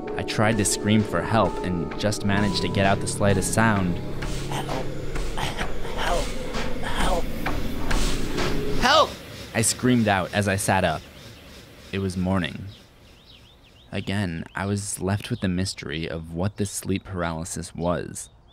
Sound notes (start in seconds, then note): 6.5 alarm sound effect